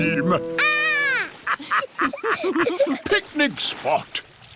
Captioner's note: laughter